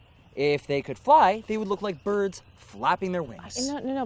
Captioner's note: none